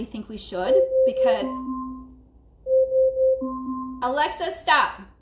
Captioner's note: alarm beeping